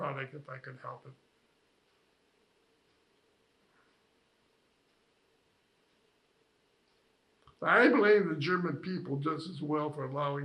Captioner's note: pauses 6 seconds